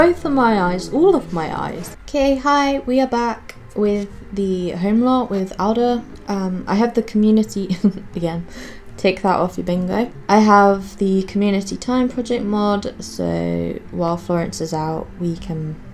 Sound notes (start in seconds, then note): 7.6 giggles